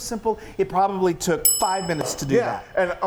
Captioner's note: bell dinging